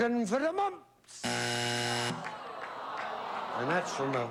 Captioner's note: buzzer